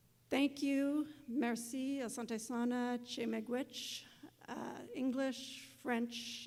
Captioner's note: non-english speech